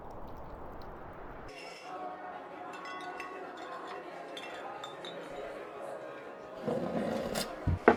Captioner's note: bottle clinking; people chattering